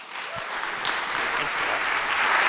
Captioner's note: audience applauding